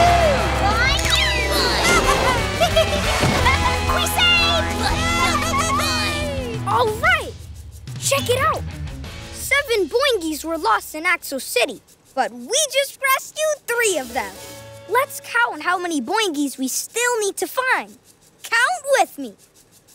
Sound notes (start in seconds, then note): 1.2 laughing